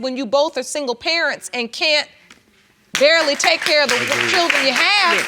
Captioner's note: audience clapping